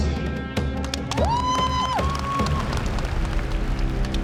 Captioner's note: audience cheering